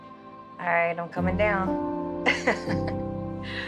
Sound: chuckles

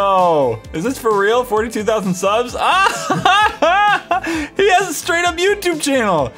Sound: laughs

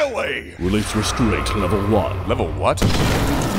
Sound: eerie sounds

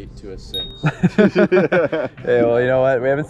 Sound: men laughing loudly

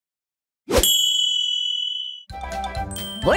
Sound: bell rings

